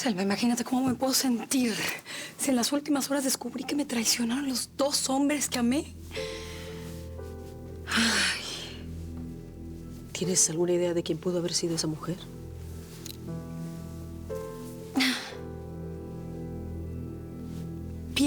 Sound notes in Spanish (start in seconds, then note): 0.0 suspiros; 10.0 suspiros